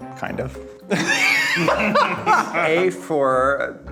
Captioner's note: laughing